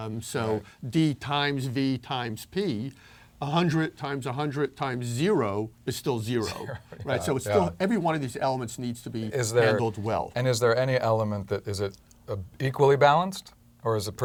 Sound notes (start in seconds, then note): 6.4 laugh